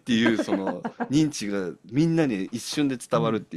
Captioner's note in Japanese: 笑い